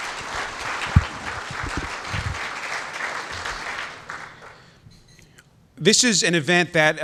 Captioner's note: applause